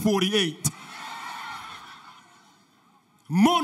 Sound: audience laughter

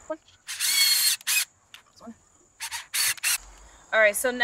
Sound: drill whirring

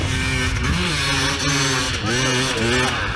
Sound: engine revving

